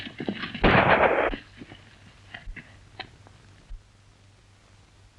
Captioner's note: gun shot